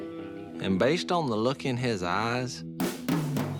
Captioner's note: none